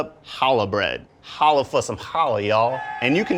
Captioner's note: cheering